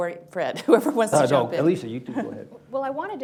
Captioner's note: laughs